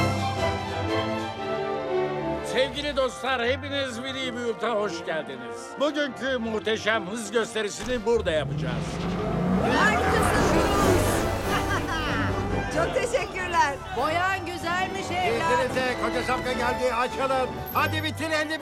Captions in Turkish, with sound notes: - Sevgili dostlar, hepiniz Willy's Butte'a hoşgeldiniz. Bugünkü muhteşem hız gösterisini burada yapacağız. (motor sesi) (Cruz bağırır ve güler) - Çok teşekkürler! - Boyan güzelmiş, evlat. - İzninizle, koca şapka geldi, açılın. Hadi bitir 51 numara! Whoo-hoo!